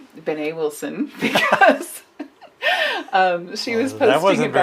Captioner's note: laughs